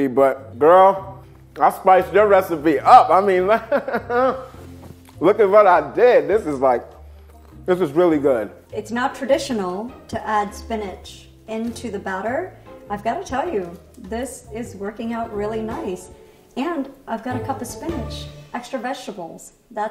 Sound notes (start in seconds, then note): 3.5 laughing